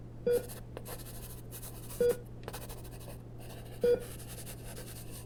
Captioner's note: pencil scratching